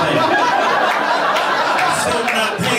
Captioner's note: laughter